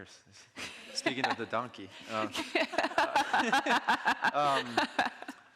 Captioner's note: all laughing